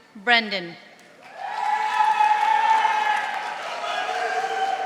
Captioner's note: audience applauding